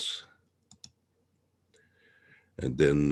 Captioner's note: mouse clicking